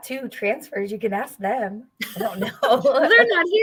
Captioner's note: laughter